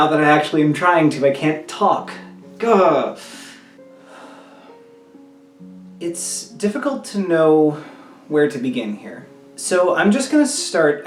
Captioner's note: sigh